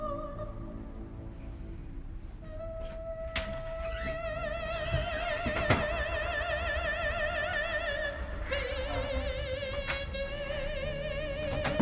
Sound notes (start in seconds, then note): 3.2 door squeaks